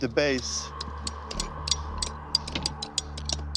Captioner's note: picks clanking